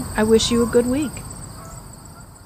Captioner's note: recording of the meadow fades out